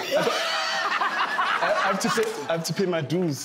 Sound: laughing

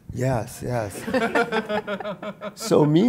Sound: audience laughs

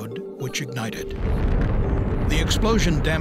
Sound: sound of explosion

